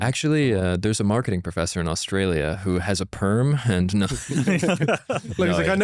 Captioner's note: laughs